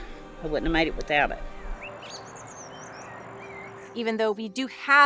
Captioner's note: birds chirping; gentle music continues